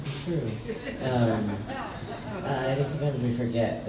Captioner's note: crowd laughs